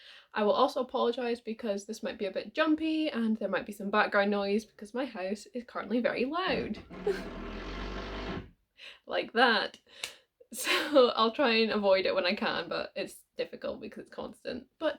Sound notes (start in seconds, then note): 6.5 drilling sounds